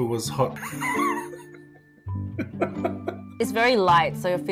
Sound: laughs

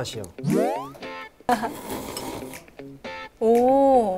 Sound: slurping

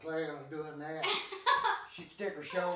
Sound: chuckling

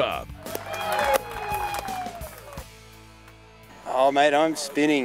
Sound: crowd cheering

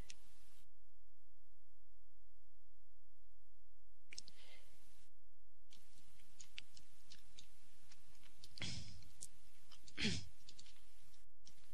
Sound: typing

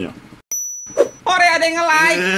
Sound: ting!

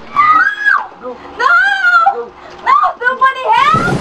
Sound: screaming; screaming

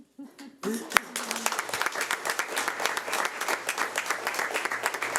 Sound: audience applauding

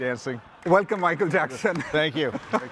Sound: laughs

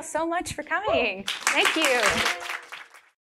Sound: audience applauding

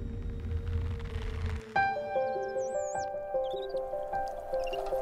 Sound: none

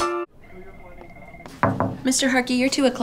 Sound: knocking

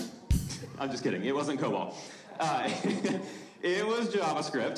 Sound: comedic drumming; laughs; audience member laughing

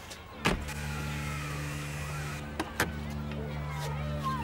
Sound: machine buzzing

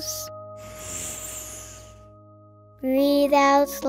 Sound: all inhaling

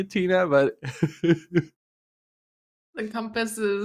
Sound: laughs

